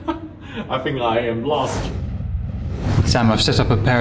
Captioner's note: laughs; wind whooshing